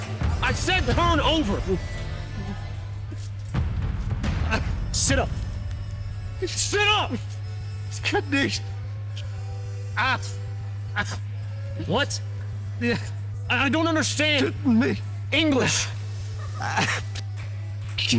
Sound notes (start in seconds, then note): 8.0 speaking german